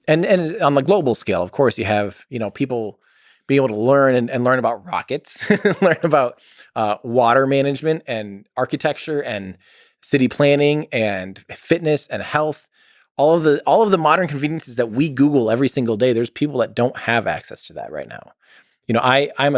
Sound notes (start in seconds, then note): 5.3 Tim laughs